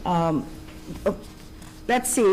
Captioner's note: paper rustling